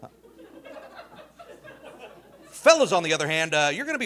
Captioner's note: audience laughing